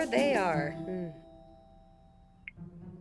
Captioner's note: phone Beeps